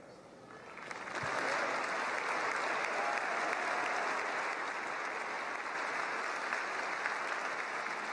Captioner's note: applause